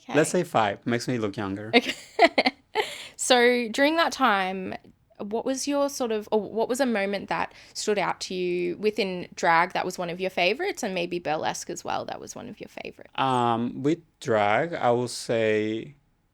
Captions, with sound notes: - Let's say five, makes me look younger. (both laughing) - So during that time, what was your sort of, what was a moment that stood out to you within drag, that was one of your favorites, and maybe Burlesque as well, that was one of your favorites. - With drag, I will say,